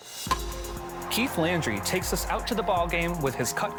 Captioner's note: dramatic music; crowd cheering; baseball bat hits